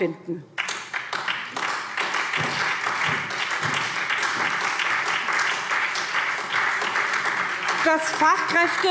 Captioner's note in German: Beifall